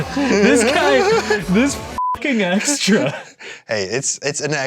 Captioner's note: beep